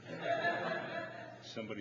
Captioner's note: audience laughing